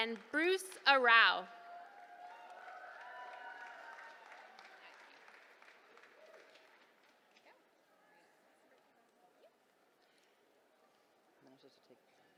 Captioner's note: applause